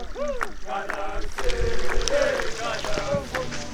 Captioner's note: water trickling